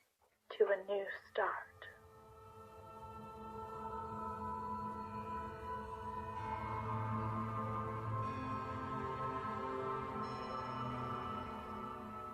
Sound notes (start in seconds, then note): 2.2 eerie musical swell; 6.4 bell tolls